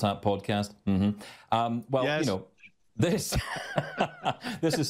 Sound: laughs

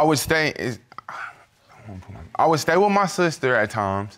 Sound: stutters

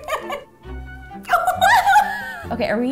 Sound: laughs; both laughing

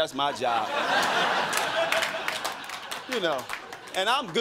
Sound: crowd laughing

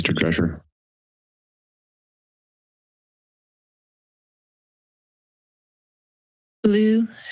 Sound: silence

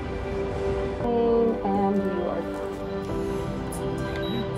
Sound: city noise; thermometer beeping

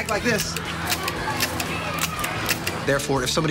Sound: gun clicks rhythmically

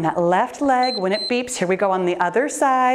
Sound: timer beeps

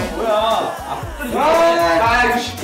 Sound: whines

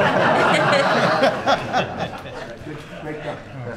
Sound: laughter

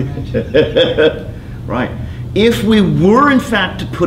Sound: laughing

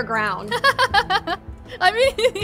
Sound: laughs

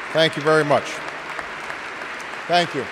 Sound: applause

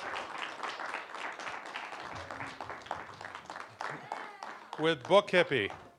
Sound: applause

